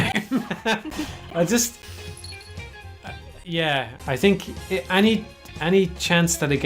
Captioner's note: laughing